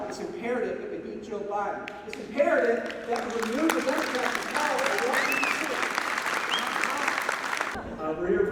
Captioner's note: applause